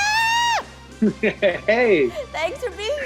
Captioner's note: laughs